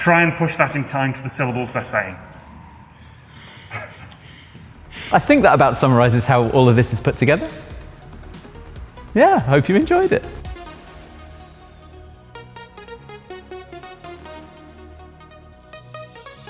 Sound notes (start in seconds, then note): 3.7 laughing; 7.6 upbeat music; 10.4 upbeat music